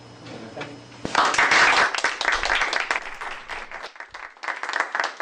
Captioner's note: applause